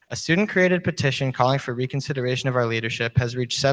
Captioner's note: none